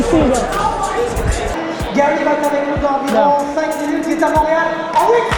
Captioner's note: speaking in a foreign language